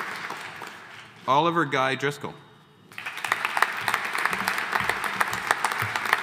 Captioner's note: audience applauding